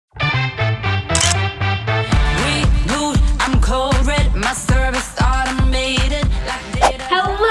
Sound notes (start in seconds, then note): 1.1 camera clicks; 1.4 fun upbeat music